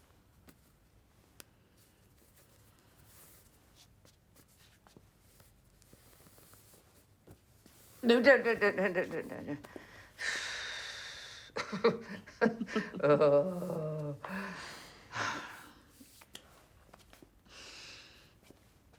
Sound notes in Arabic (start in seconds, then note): 10.2 زفير في الإثارة; 11.6 ضحكة مكتومة; 13.6 تنهدات